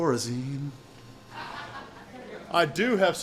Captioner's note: woman laughing